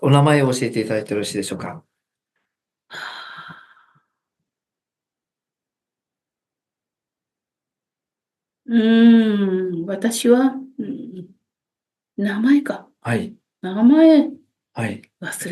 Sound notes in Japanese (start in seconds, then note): 3.0 溜息